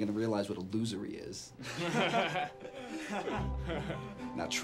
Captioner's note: boys laugh